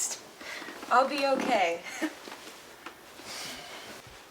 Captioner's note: laughs